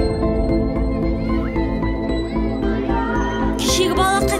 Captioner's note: voices of children playing